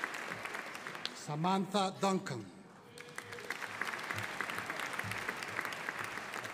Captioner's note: audience applauding